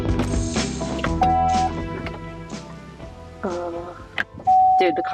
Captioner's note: car beeping